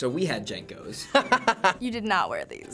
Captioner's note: laughs